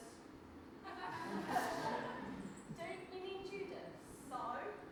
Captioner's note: audience laughs